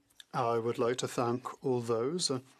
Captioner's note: speaking French